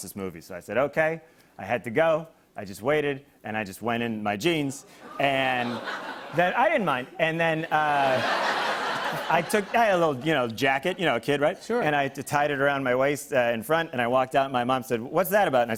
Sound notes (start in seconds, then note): 5.1 audience gasps; 7.6 laughter